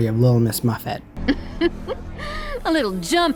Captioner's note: chuckles